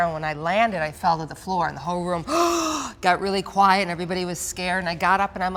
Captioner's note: gasps